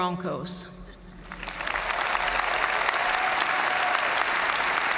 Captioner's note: audience cheering and applauding